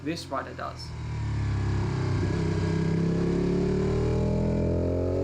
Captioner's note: engine roaring